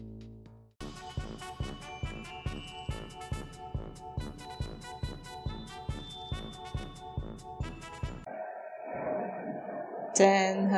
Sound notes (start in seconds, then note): 0.8 clown music; 8.1 airplane taking off; 10.0 singing